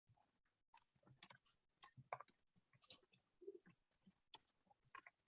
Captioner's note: keyboard clicking